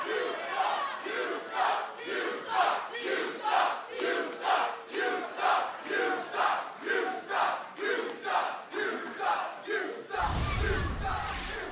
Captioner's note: crowd cheering